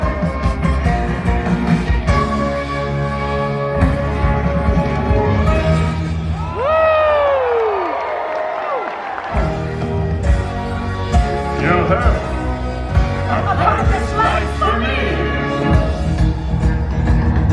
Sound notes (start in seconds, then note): 6.1 crowd cheering